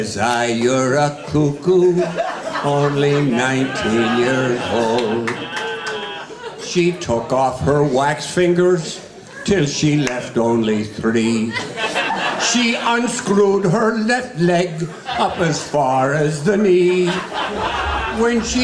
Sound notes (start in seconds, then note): 0.0 audience laughing; 2.4 audience laughing; 5.9 audience cheering; 12.0 audience laughing; 16.7 audience laughing